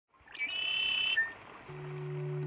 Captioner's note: bird chirping